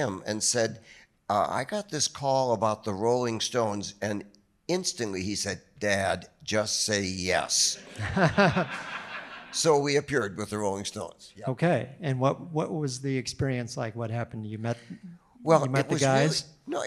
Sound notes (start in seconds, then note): 7.8 audience laughing